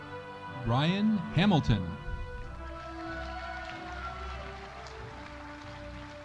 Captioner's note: audience cheering